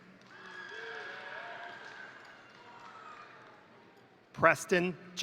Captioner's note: crowd applauding; crowd cheering